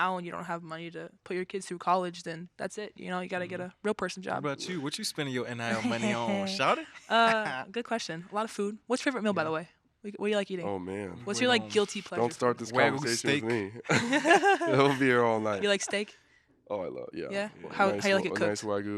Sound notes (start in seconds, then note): 7.0 laughing; 13.0 all laughing